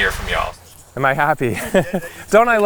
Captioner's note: laughter